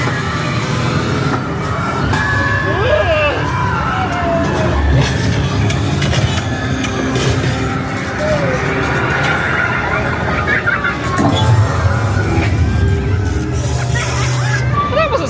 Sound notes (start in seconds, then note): 4.4 machine cranking; 4.6 spooky music; 9.7 guest laughing; 11.6 machine cranking; 11.6 spooky music